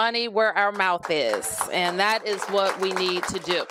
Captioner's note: applause